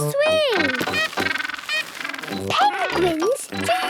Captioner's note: honking